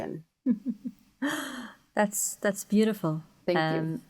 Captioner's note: chuckles